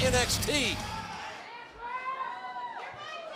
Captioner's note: crowd chatter